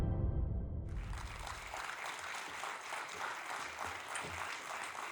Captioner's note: audience applauding